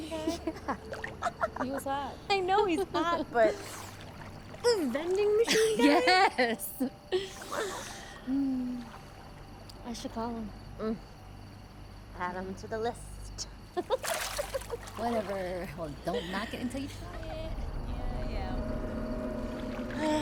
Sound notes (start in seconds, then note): 0.0 Candace laughs; 13.8 laughs; 16.3 tense music; 19.9 sighs